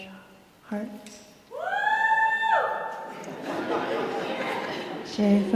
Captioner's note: laughter